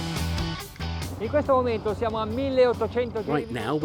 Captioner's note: speaking in foreign language